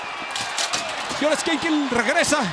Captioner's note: applause